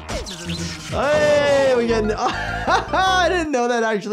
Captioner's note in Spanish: risas